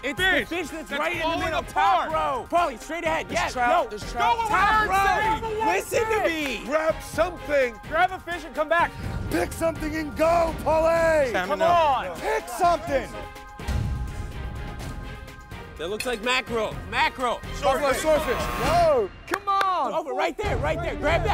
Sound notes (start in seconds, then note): 17.5 shouting